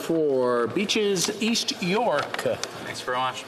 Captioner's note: speaking French